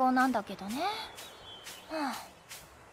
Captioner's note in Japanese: ため息